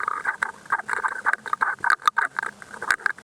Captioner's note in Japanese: 魚がヒットし暴れる音